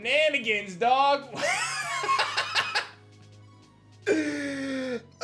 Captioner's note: laughs